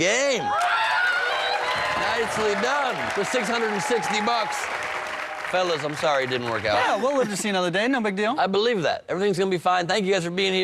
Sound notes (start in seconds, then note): 2.5 cheers and applause